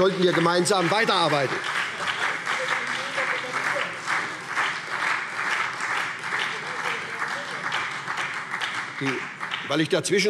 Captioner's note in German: Beifall